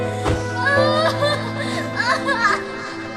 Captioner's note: melancholic music playing; Lia bawling